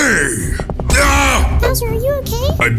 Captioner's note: bowser screams